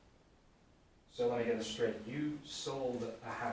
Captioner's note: none